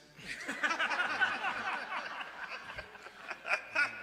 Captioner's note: laughter